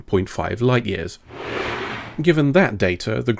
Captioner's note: scraping sound